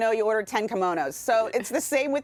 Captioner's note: laughter